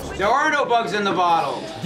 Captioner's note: shouting